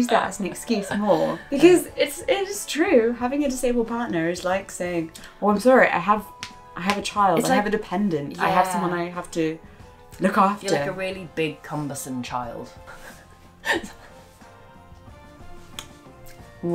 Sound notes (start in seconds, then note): 13.6 laughs